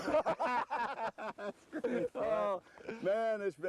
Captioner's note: laughter